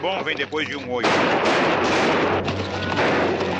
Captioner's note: gunshots